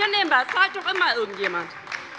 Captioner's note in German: Beifall bei der LINKEN